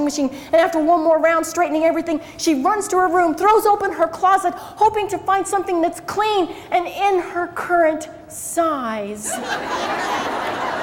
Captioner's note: crowd laughs